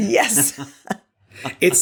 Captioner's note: chuckling